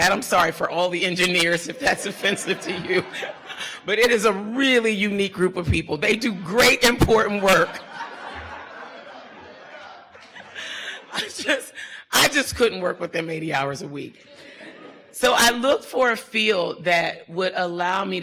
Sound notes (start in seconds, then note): 1.7 laughs; 7.3 audience laughter